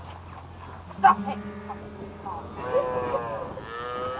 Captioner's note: workers shouting